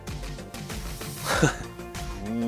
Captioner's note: chuckle